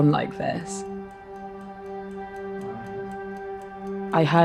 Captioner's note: clock ticking; pensive music